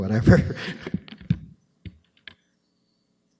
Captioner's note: laughter